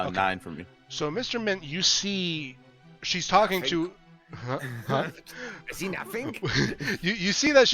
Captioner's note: German Accent